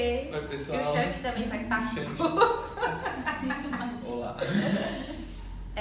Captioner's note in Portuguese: risos